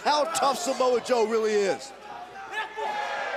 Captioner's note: crowd chatter